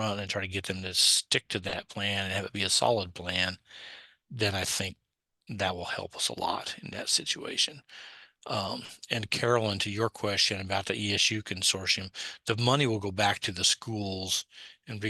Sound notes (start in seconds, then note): none